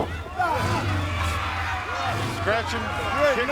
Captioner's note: motorcycle engine revving